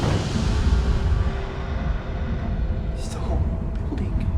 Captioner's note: voice growls